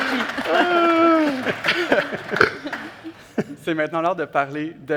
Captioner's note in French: applaudissements et rires